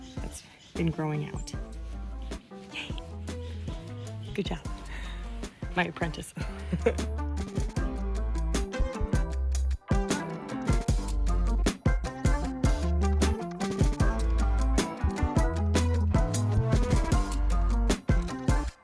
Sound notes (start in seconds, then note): 2.6 whispers; 6.5 dorky laugh